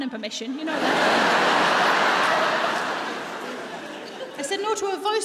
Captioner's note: audience laughs